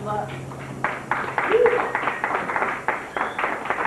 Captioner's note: applause